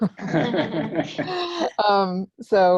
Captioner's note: laughing; laughs